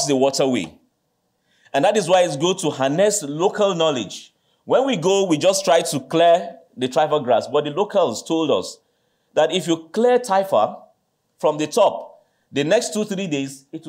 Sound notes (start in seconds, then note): none